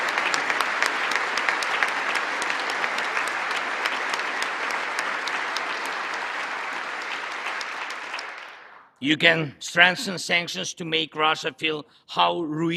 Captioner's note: applause